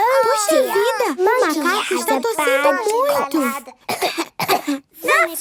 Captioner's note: she pretends to cough; pretending to cough